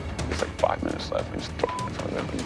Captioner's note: beep